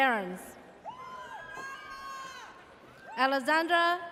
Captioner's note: audience cheers